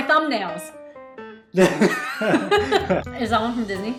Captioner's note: both laugh